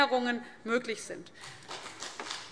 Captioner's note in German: Beifall BÜNDNIS 90/DIE GRÜNEN